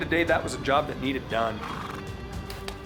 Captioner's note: none